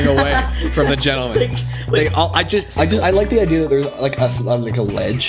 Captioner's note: laughing